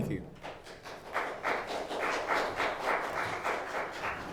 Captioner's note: clapping